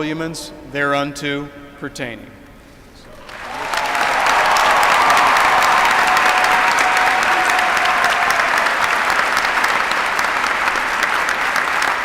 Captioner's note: applause